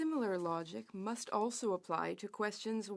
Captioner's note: speaking French